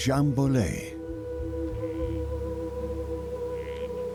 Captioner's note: frogs croak